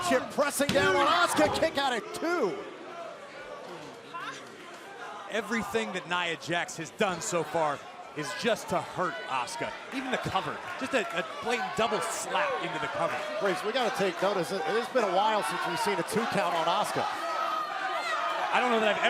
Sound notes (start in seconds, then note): 0.0 crowd cheering; 3.3 crowd chatter